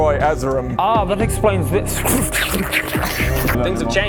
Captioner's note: flubbery noises